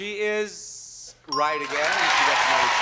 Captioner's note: bell dings